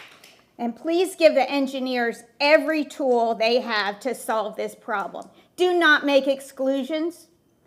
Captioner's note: applause